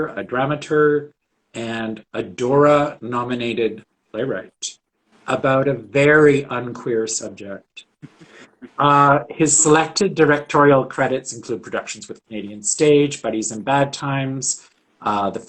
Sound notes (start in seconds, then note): 8.0 laughing